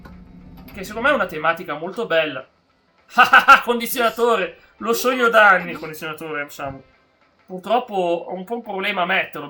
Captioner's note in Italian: risate